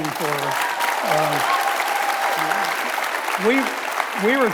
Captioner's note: audience cheers and applauds